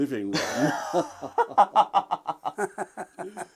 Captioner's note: laughter